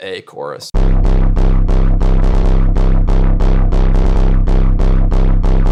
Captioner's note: electronic tones sounding